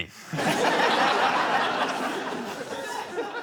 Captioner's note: laughter